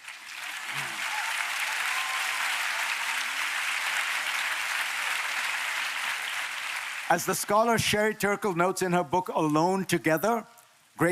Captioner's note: applause